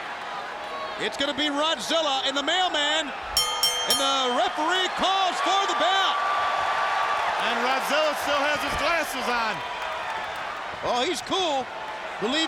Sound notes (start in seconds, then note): 3.4 bell rings; 6.2 audience cheers